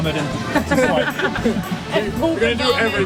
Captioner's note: laughs